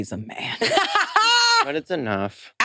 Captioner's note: participants laughing